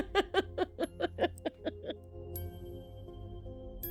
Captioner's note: laughter